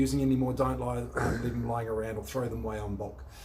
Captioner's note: camera person clearing throat